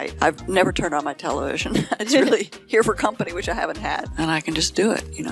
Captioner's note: laughing